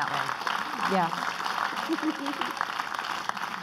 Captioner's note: clapping